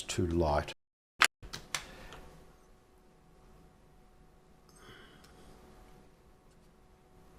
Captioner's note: silence